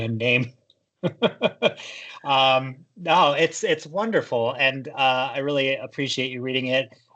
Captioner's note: chuckles